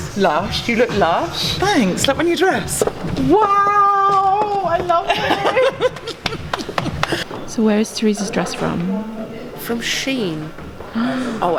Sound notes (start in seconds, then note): 5.8 slapping knee; 10.9 camerawoman gasping